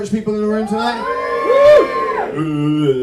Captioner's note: whooping